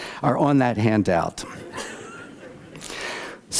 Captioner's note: laughter